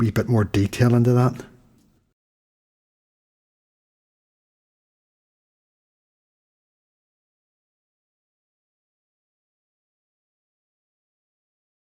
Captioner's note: silence